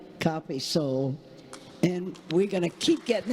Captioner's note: congregation applauding